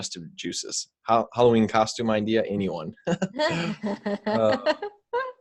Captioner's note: giggles